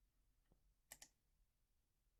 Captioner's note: click